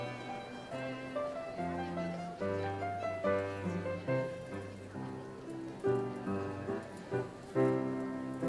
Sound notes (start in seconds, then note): 2.3 audience chatters